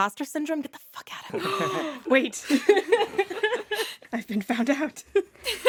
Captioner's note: gasps; laughs; laughter